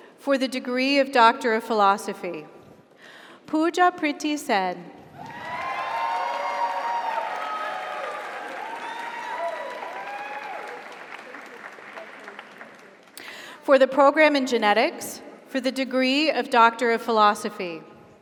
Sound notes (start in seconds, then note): 5.1 audience cheers; 5.1 audience applauds